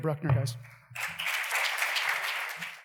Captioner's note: audience applause